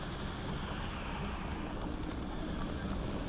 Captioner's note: wind howls